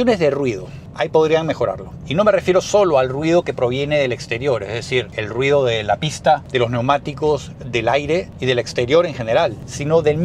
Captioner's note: track, tires, wind